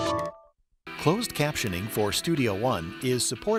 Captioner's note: voiceover